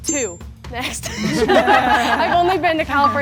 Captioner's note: group laughing